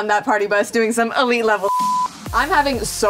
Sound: beep

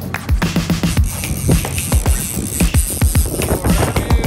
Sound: reel clicking

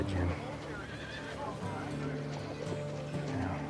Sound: people chattering

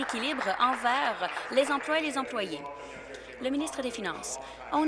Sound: applause

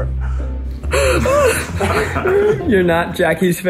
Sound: group laughing

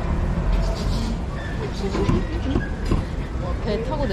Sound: laughing at the thought of drinking beer

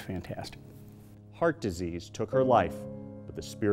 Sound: voiceover

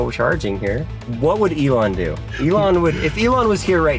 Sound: laughing

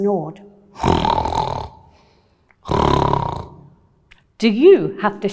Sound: snoring

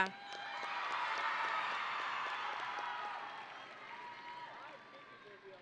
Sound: audience and graduates cheering

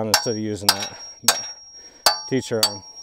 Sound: hammer clanging

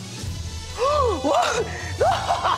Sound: laughs; gasps

